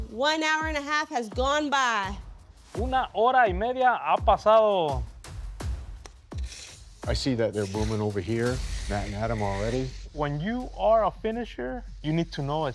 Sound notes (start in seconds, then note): 2.7 speaking Spanish